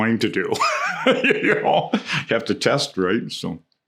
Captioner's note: laughs